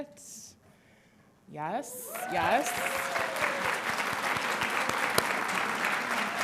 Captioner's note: audience applauding